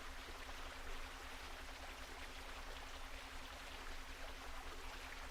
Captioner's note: water gushing